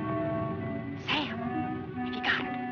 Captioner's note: whispering